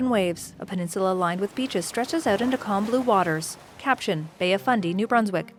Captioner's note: water splashing; orchestral music